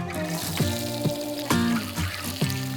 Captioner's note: pan sizzling